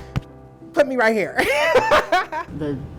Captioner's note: laughs